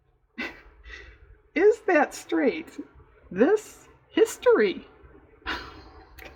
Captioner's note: laughs